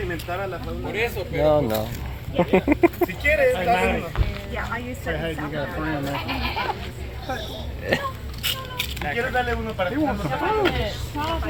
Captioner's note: fear of rabies noises